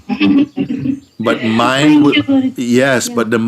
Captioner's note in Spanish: risas